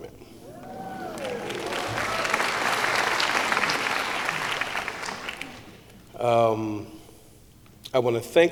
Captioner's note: applause